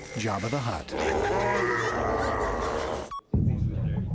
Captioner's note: Speaking Huttese; chattering